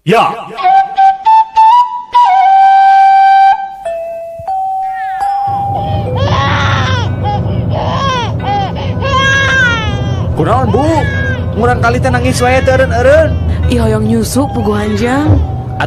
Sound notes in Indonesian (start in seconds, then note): 3.8 lonceng; 4.7 berteriak; 8.6 menangis